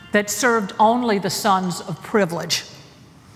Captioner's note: none